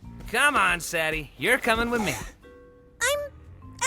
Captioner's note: gasps